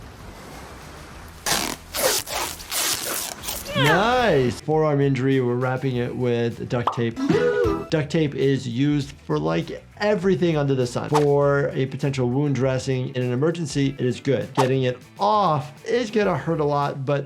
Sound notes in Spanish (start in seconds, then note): 1.4 la cinta chirría